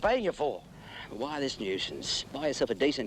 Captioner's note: sighs